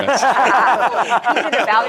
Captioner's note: laughter